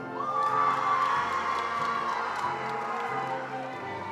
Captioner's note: attendees applauding